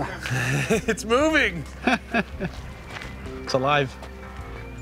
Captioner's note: chuckles